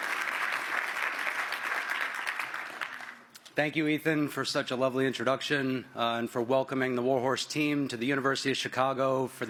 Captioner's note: applause